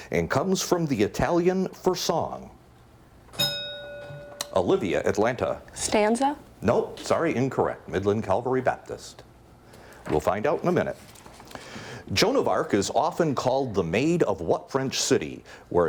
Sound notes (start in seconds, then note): 3.3 bell dings